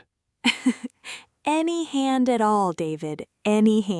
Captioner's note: laughs